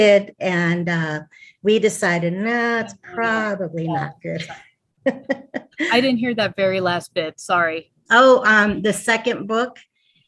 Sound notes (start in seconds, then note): 4.1 laughing